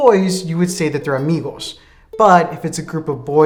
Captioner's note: says it in a foreign language